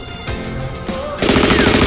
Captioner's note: automatic gunfire